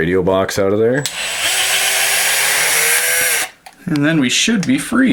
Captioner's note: whirring